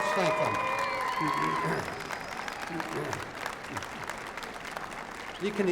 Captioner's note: applause